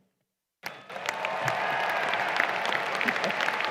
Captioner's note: applause